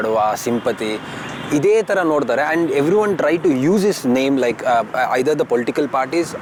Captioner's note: speaks in Kannada – not transcribed